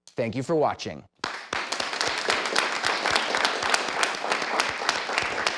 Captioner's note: clapping